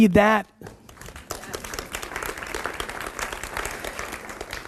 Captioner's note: audience applauds